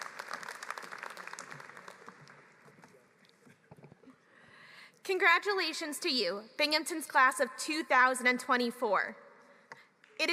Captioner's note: applause